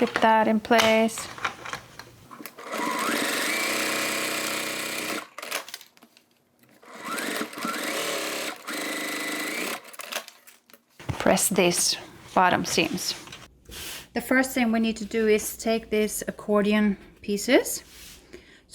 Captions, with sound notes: Clip that in place. (sewing machine whirring) Press these bottom seams. The first thing we need to do is take these accordion pieces.